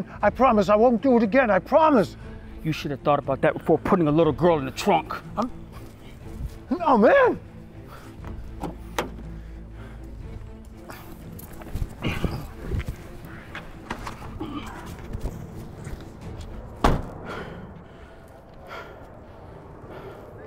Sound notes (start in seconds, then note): 8.9 dramatic music; 16.8 car door slams